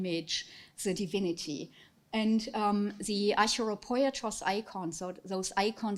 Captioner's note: speaking foreign language